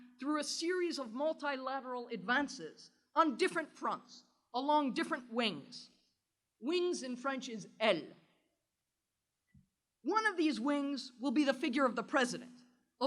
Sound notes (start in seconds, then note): 8.9 french